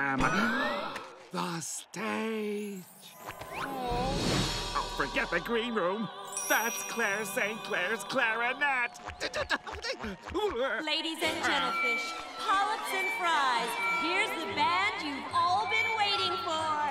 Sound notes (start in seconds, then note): 0.3 gasping; 8.7 stuttering